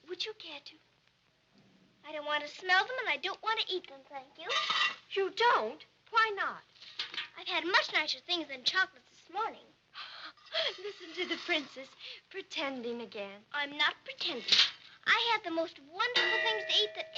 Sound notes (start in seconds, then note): 10.4 laughs